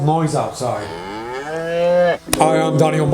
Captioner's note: cow mooing